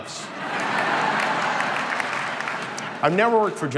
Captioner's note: crowd laughing